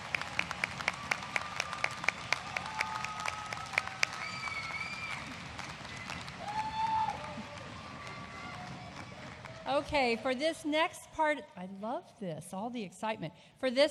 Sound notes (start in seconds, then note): 0.0 applause